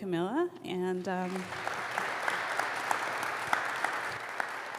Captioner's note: crowd clapping